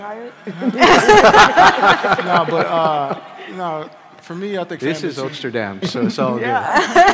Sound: laughter

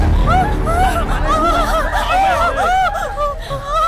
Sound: Malay Language

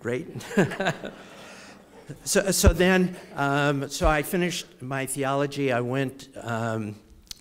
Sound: laugh

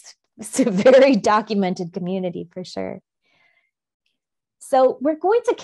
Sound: laughs

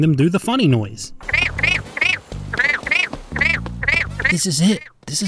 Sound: frogs perform the funny noise

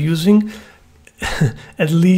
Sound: chuckles

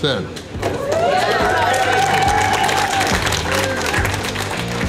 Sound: crowd clapping and cheering

